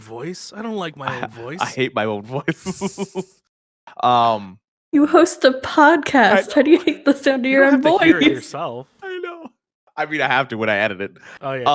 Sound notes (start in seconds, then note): 2.4 laughter; 7.6 laughter; 8.6 laugh